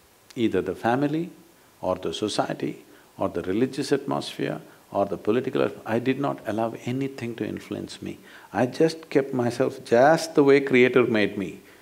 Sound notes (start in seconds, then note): none